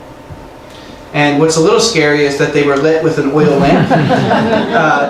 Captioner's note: laughing